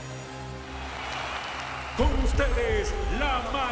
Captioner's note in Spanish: Aplausos